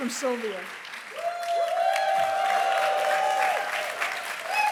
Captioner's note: applause